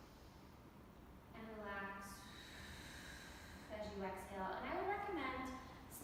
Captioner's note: exhales; inhales